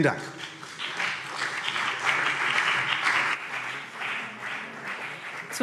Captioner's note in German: Beifall CDU und BÜNDNIS 90/DIE GRÜNEN